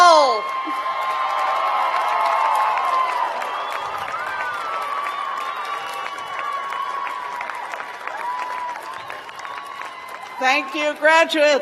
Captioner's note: cheers and applause